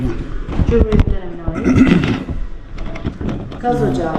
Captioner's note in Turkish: boğazını temizler